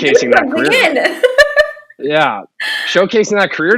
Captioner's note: laughing